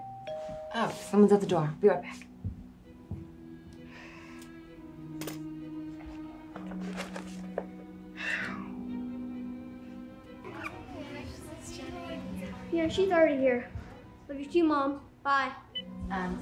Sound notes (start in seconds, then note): 0.0 doorbell ringing; 3.5 gentle string music; 8.1 Hayley sighing